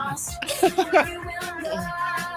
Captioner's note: laughing